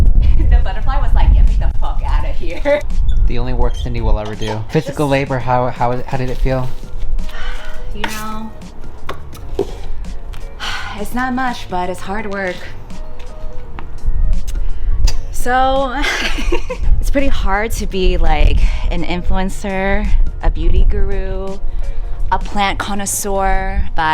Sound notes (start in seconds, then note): 7.3 sighs; 10.6 sighs; 15.9 laughs